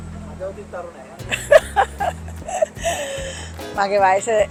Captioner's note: laughing